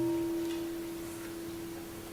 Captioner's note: bell rings